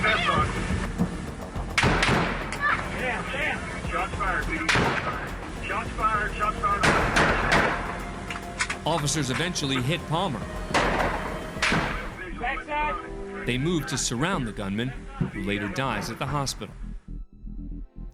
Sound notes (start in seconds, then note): 1.6 gunshots; 11.6 gunshots